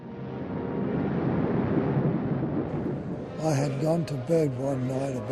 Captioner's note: planes, air raid siren